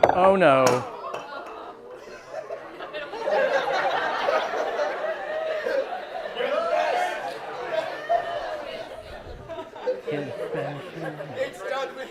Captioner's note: laughter